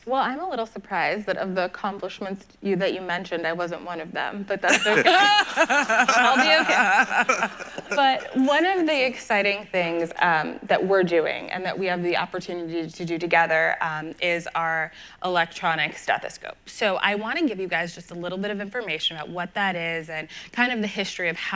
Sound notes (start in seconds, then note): 4.7 everyone laughs